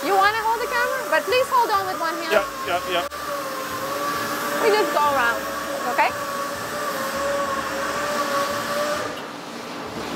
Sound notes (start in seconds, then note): 3.2 machinery whirring; 6.3 machinery whirring